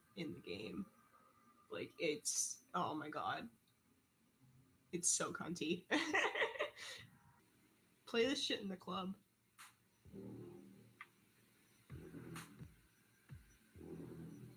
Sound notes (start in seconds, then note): 6.0 laughs; 9.8 sick beat